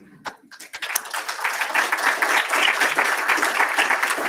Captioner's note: applause